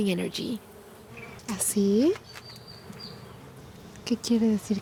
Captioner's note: speaking Spanish